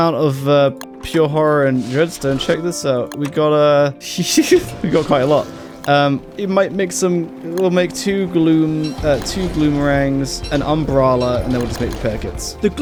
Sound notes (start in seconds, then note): 3.9 laugh